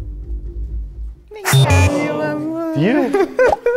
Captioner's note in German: Ernste Musik; Sie murmelt liebevoll